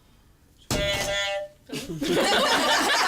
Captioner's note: funny buzzer; laughter